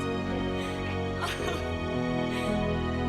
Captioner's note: laughs